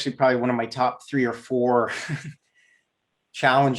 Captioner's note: giggles